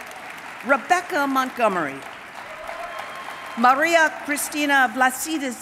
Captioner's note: applause